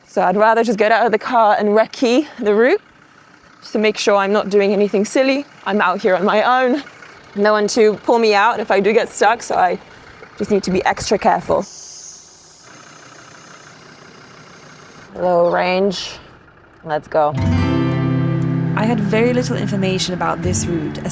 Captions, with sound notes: So I'd rather just get out of the car and rec key the route just to make sure I'm not doing anything silly. I'm out here on my own. No one to pull me out if I do get stuck. So I just need to be extra careful. (loud sound of engine) Low range. Let's go. (soft music) I had very little information about this route,